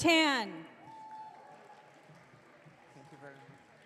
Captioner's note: audience cheering